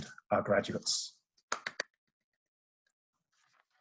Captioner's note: claps